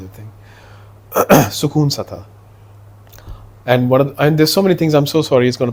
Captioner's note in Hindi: गला साफ़ करने की आवाज़